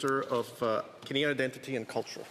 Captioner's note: speaking French